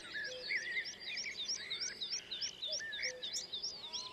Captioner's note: blackbird sings